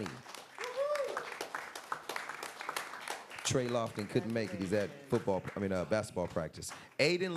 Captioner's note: applause